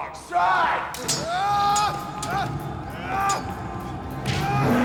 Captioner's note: swords clang; grunts; roars; thud